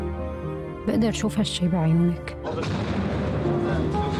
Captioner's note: bomb blasts